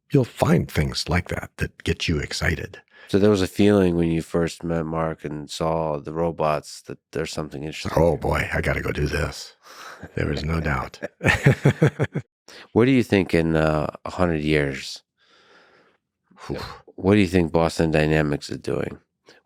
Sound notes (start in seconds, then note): 9.8 Lex laughs; 11.4 laughs